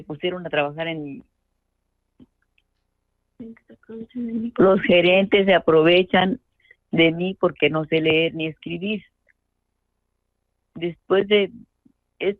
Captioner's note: speaking in Spanish